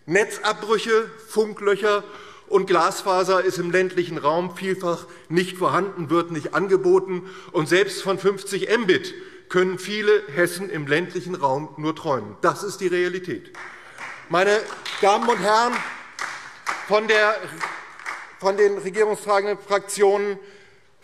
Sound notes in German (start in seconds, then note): 13.4 Beifall DIE LINKE und vereinzelt SPD